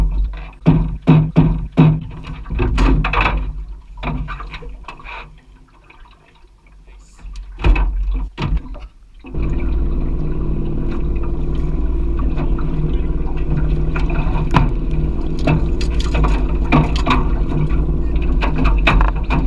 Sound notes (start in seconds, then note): 12.0 engine; 12.0 water noises